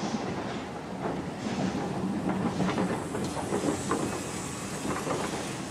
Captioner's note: train passes